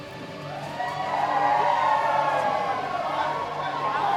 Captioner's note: crowd whooping and chanting